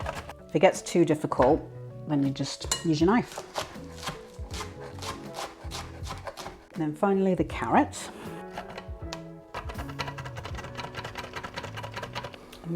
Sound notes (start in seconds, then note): 0.0 rapid chopping thunk; 4.8 chopping thunk; 7.8 rapid chopping thunk